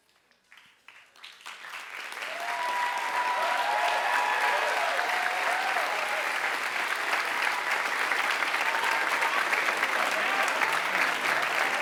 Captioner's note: applause